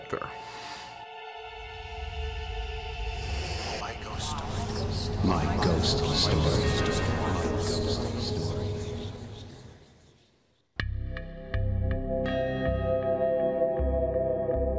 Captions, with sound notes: [dramatic music playing] [collective voices] My ghost story. [dramatic music playing]